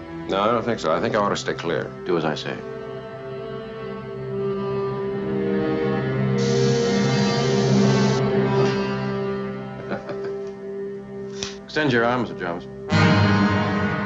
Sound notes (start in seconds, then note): 6.4 hypo's hissing-noise; 9.8 chuckle; 12.8 dramatic music